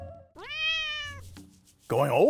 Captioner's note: cat meowing